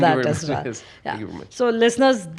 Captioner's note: laughs